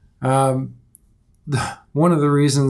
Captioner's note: exhales